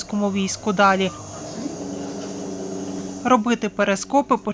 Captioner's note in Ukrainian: Звук виробництва